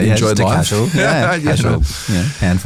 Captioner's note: laughs